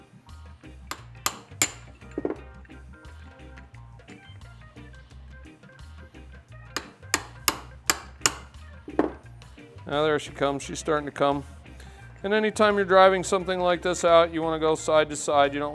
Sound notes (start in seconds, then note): 0.8 hammer clinking